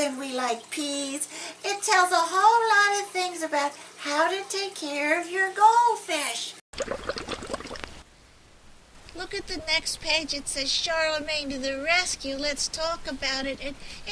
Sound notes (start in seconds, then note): 6.7 sound of bubbles in water